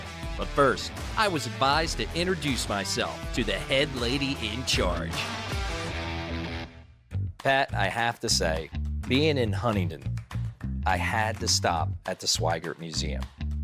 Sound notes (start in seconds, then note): none